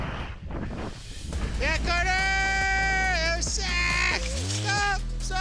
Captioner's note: shouting